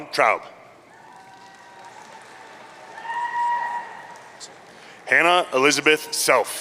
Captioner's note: audience cheering